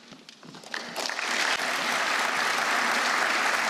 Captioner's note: applause